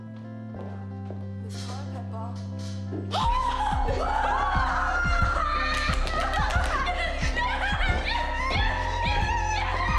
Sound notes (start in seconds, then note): 2.6 gasps; 3.7 yelling